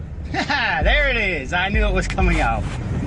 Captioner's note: laughs spitefully